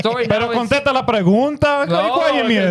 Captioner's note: speaking In Foreign Language